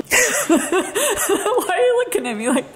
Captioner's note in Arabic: يضحك